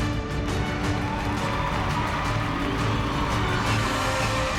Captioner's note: crowd cheering